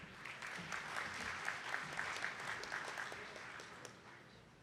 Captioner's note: attendees clapping